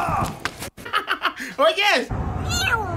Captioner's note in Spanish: Risas